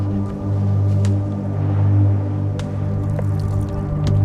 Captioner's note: wind blowing